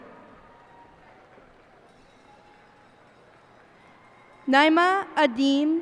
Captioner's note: cheers and applause